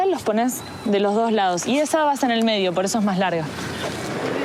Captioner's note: speaking In Foreign Language